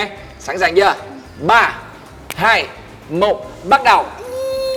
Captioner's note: counting